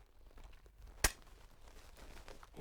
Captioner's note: pop